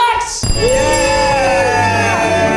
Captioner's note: group cheers; bell rings; audience applauding; triumphant music